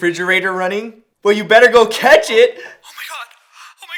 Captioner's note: on phone